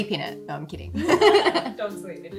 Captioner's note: giggles